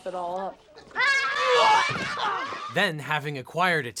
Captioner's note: yelling